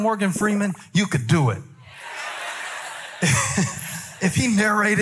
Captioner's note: congregation affirming